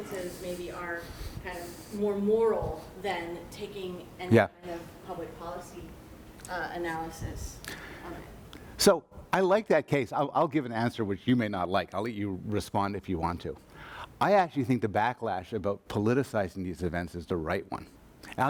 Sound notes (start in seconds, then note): 3.9 voiceover